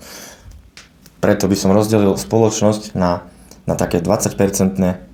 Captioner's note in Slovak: smrkanie